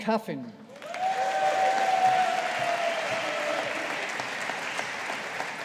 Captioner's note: audience applauding